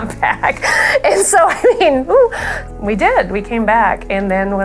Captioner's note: laughs